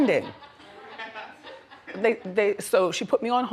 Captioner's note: audience laughs